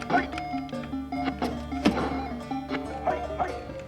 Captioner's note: videogame sounds